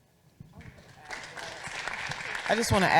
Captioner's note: audience applauding